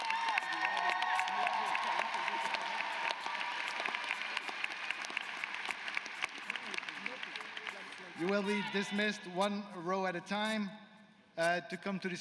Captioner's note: applause